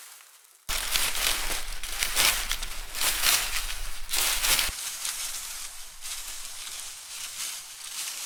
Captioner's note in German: raschelnde Blätter